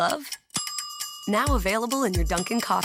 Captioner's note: timer ticking; timer dings